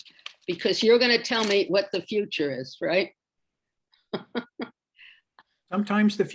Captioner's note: laughs